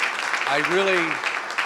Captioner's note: crowd clapping